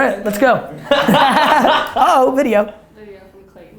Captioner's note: laughter